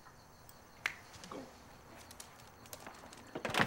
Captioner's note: snaps fingers